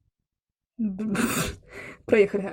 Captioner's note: laugh